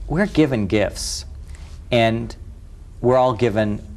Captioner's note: none